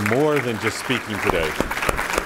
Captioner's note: applause